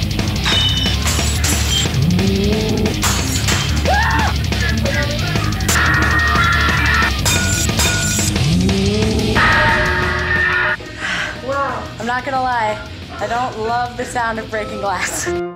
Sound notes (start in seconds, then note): 5.7 ceramic shatters